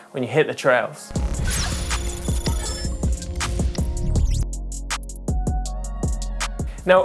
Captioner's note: digital beeping